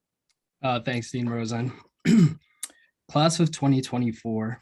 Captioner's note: clears throat